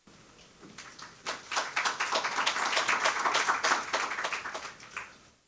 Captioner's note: audience applauding